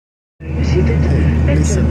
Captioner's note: speaking in Ukrainian language